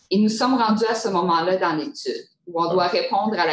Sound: speaking in French

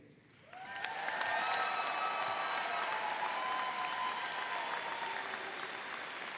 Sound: audience cheering and applauding

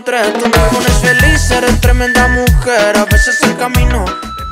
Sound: timer beeping

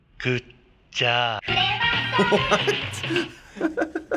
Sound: laughing

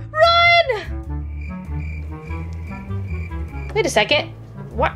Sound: crickets Chirping

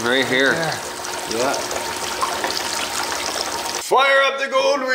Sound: water running

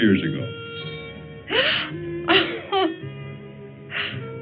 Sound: laughs

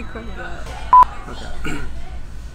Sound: beep; clears throat

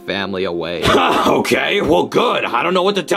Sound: chuckles

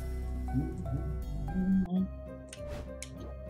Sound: humming along

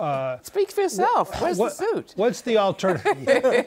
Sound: laughter

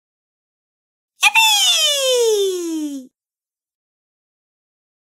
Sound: voice of young girl

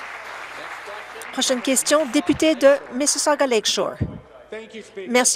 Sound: applause

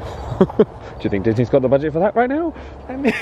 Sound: laughs

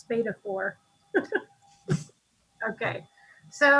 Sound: laughs

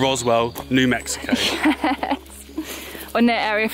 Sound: laughing

